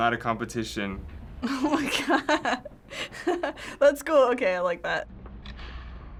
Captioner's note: laughs